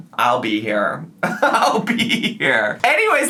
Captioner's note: laughs